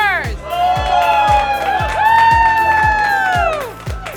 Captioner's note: loud cheering